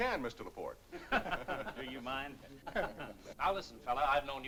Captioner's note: laughter